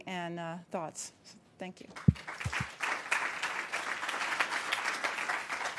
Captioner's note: applause